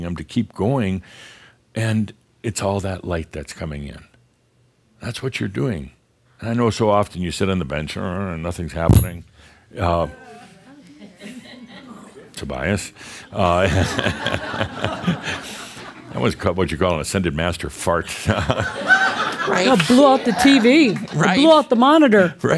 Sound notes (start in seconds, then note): 13.7 more laughter; 17.3 laughter